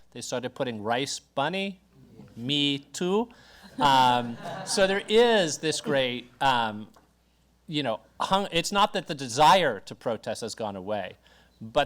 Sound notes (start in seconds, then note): 3.7 audience laugher